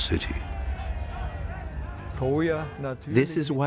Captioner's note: soldiers shouting